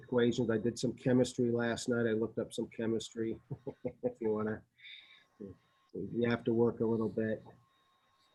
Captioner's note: laughter